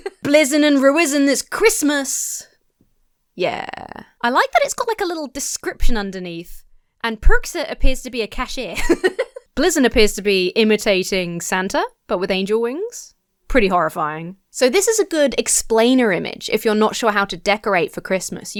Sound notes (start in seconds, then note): 0.0 laughs; 8.7 laughs